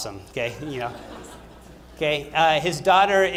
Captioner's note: laughter